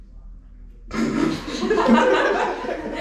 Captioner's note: laughter